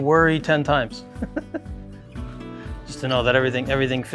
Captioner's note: chuckles